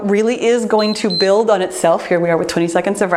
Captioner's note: timer beeps